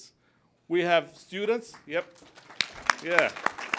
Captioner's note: applause